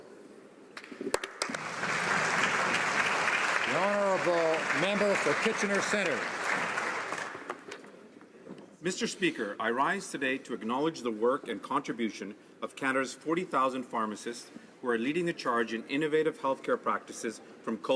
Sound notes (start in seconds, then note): 4.9 applause